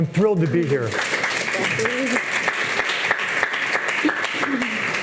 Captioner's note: audience clapping